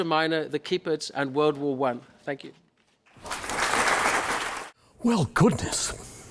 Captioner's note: applause